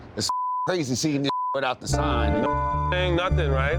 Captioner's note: beeps